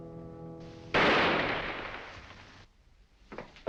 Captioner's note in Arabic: طلقة نارية